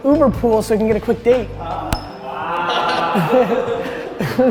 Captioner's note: group laughter